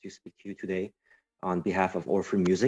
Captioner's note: speaking French